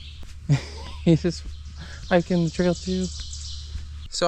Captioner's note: laughs